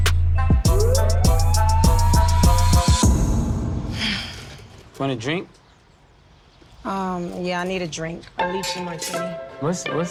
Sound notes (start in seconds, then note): 3.9 sighs